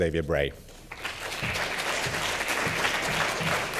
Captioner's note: applause